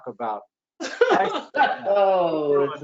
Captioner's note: laughter